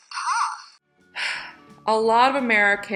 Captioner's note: sighs